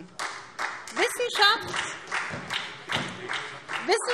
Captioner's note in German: Beifall SPD